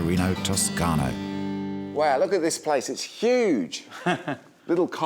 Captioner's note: chuckles